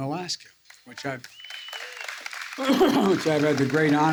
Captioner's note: applause